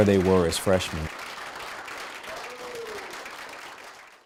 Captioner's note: applause